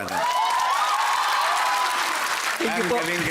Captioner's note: applause, cheering